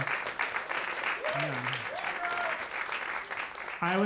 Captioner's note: crowd cheers